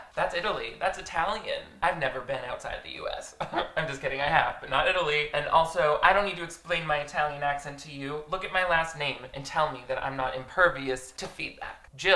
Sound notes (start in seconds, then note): 3.4 chuckles